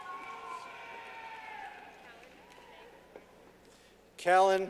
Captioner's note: clapping